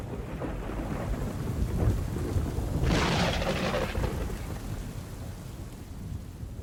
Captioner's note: thunder crackles; rain pattering